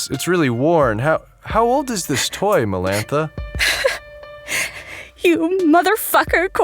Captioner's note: holding back a sob